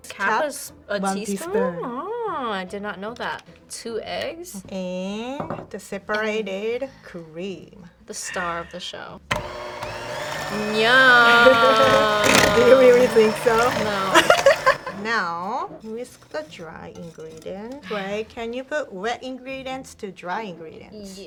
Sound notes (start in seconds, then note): 9.3 mixer whirs; 13.9 laughs